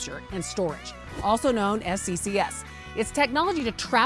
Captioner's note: text whooshing